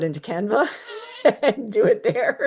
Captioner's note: laughs